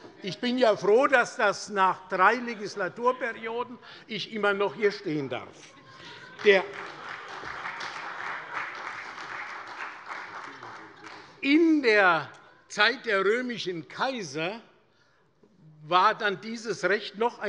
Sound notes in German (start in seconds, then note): 5.6 Heiterkeit - Beifall bei der SPD